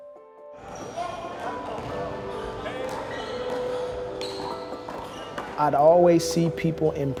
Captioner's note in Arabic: ثرثرة الناس